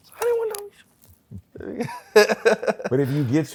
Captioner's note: laughs